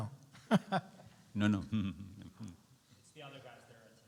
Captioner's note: questioner laughs